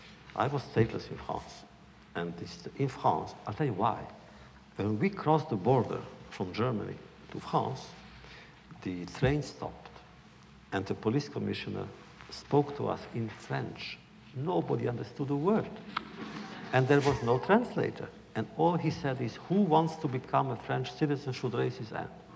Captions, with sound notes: I was stateless in France, and in France -- I’ll tell you why. When we crossed the border from Germany to France, the train stopped and the police commissioner spoke to us in French. Nobody understood a word, (laughter) and there was no translator. And all he said is, “Who wants to become a French citizen should raise his hand.”